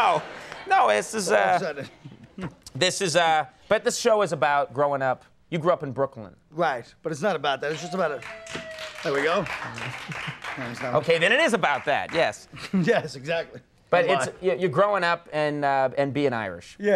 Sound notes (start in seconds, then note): 7.6 audience clapping; 8.2 audience member howling